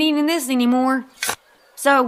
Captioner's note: shovel thunks into ground